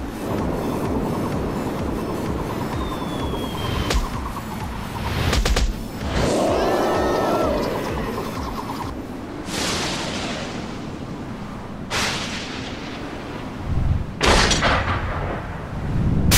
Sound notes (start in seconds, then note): 6.0 roar; 6.0 screaming